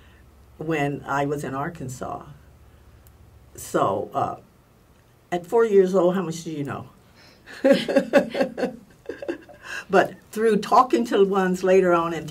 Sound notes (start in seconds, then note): 7.5 laugh